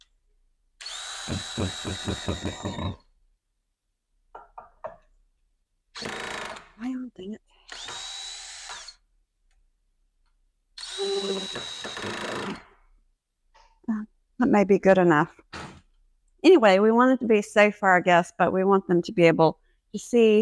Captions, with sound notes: [Drill] [Drill] Well dang it [Drill] [Drill] That may be good enough Anyway we want it to be safe for our guests but we want them to be able to